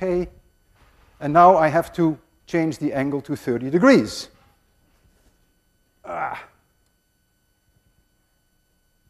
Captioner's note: grunts